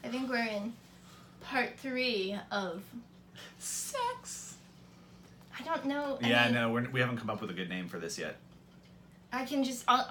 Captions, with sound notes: I think we're in part three of *sing-songy* Sex! I don't know any... Yeah, no we haven't come up with a good name for this yet. I can just... I'll..